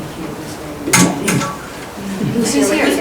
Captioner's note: taps on microphone